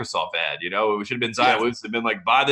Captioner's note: laughing